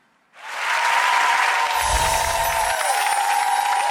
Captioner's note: audience applauds